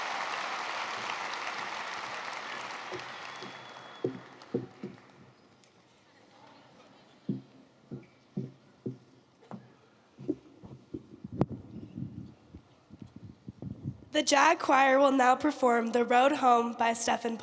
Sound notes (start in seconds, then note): 0.0 applause